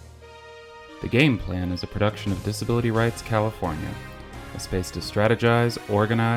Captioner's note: voiceover